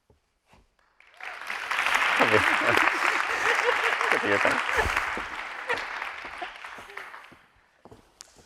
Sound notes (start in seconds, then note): 1.1 audience cheering; 4.4 laughing